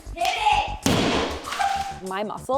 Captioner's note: hammer thudding